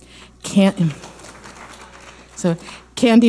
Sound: audience applauding

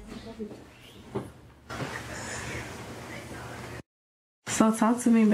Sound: fabric rustling

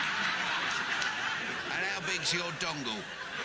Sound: audience laughing

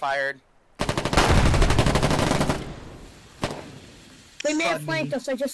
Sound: sounds of war

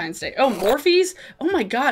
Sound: static squeals

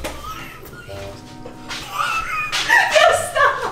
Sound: wheezing

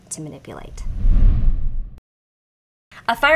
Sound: graphics sliding

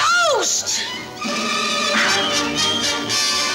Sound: woosh!

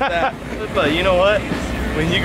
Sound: laughs

